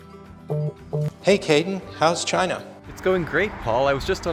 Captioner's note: cell phone buzzing